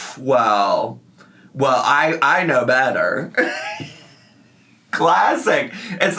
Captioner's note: laughs